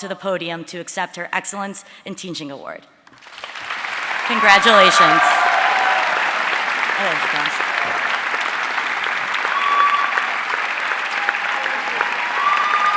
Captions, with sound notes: to the podium to accept her Excellence in Teaching Award. Congratulation. (audience cheering and applauding)